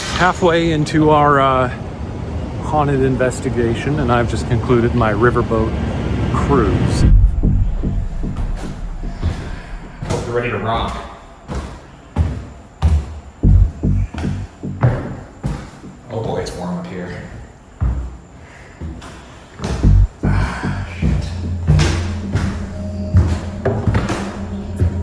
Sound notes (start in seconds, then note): 7.0 low pensive music; 8.7 footsteps creaking; 11.7 footsteps ascending; 18.0 footsteps ascending; 21.8 low ominous music